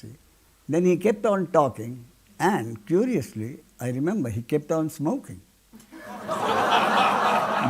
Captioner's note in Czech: smích